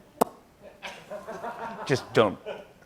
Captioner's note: laughter